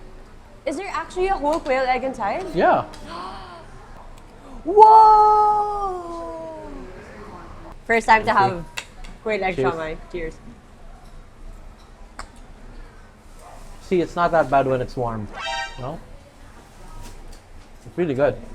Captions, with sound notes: Is there actually a whole quail egg inside? - Yeah. (gasps) - Whoa! First time to have a quail egg siomai. - Cheers. - Cheers. - See? It's not that bad when it's warm. You know? It's really good.